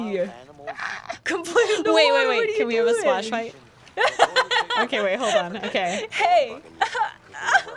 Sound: laughter

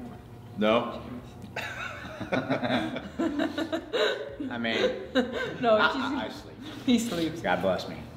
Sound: laugh

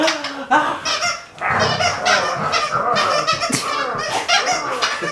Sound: toy squeaks

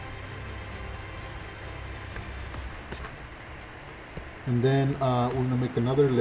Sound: computer keyboard keys tapping

